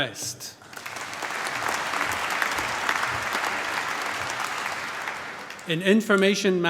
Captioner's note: applause